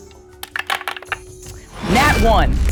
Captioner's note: die clattering